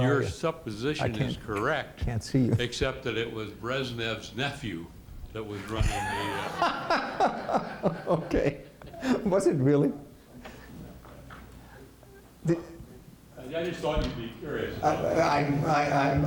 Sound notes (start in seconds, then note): 5.8 laughter